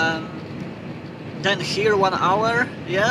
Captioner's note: pumping diesel